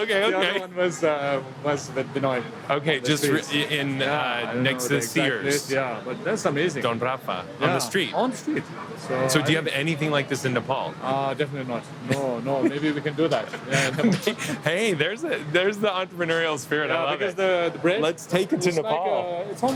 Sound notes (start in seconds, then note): 13.3 laughs